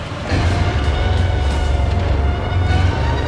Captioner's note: King Ghidorah Roars